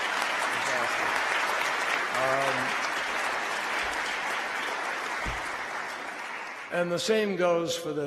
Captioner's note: applause